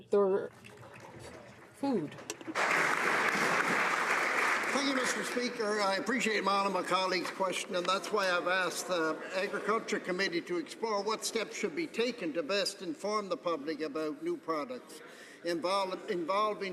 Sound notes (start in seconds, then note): 5.4 some Applause